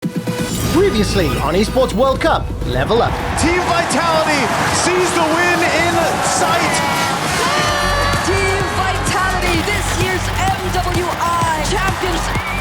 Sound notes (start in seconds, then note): 6.9 cheers